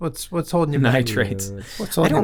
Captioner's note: laughs